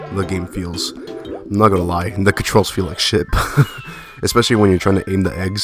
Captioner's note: laughs